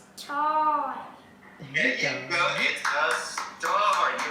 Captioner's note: clapping